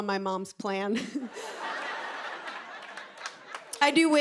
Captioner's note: laughter